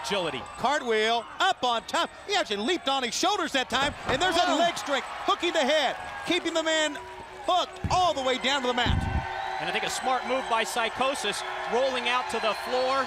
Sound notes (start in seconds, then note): 10.9 crowd cheering